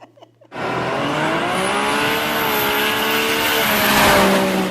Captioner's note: chuckling; engine revving